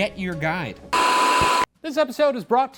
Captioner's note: screen buzzing